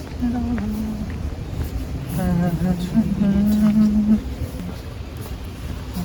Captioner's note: humming